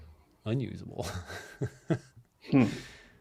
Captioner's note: laughs